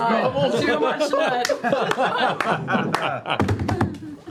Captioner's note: laughter